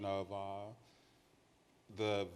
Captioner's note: none